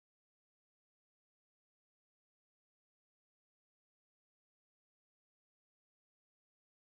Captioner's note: none